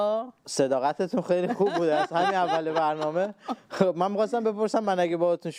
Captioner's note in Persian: خنده